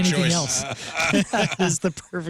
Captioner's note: laughing